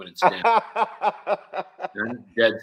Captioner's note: laughing